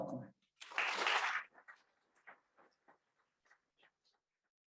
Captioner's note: audience claps